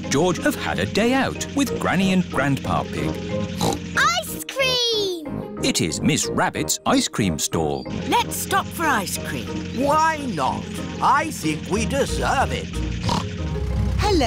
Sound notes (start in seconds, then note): 3.5 snorts; 13.0 snorts